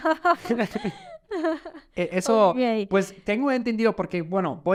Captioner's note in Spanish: risas